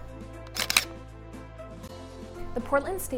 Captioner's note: camera shutter sound